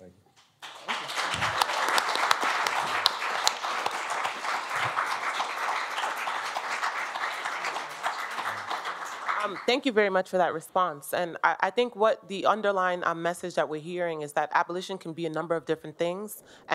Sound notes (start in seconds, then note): 1.1 applause